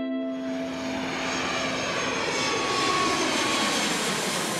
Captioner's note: airplane whizzing